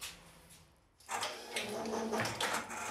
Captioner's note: clattering